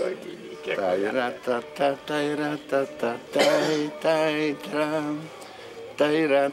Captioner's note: humming tune